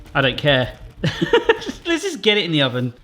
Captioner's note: laughs